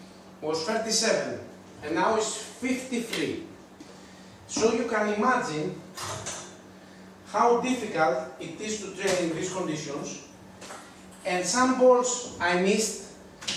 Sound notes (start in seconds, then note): none